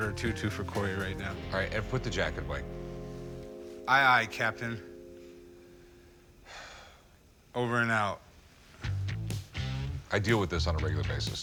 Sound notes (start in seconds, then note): 6.4 sighs